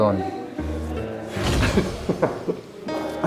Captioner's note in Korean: 스-윽